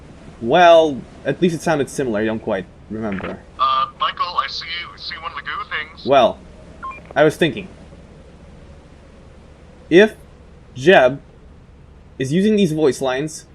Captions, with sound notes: Well.. at least it sounded similar. I don't quite remember... *Walkie Clicks* at least it sounded similar. I don't quite remember... U̵h̴,̶ ̶M̵i̴c̴h̷a̴e̵l̵?̵ I̵ ̶s̴e̵e̷.̵.̷ s̷e̷e̷ ̵o̵n̸e̴ ̴o̸f̸ ̸t̷h̷e̶ ̵g̴o̷o̸ ̸t̴h̵i̶n̶g̴s̸.̵ Well. s̷e̷e̷ ̵o̵n̸e̴ ̴o̸f̸ ̸t̷h̷e̶ ̵g̴o̷o̸ ̸t̴h̵i̶n̶g̴s̸.̵ *Walkie Beeps* I was thinking... if... Jeb... is using these voice lines